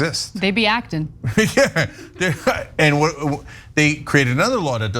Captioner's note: laugh